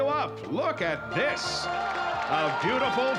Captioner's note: applause